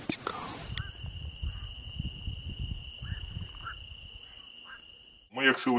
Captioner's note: crickets chirping sound